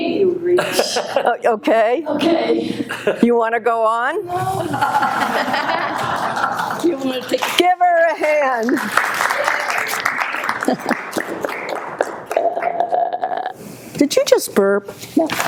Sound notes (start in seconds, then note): 4.4 audience laughing; 8.2 audience applauding